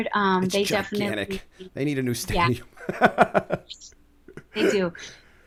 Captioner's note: laughter